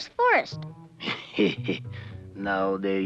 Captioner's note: laughing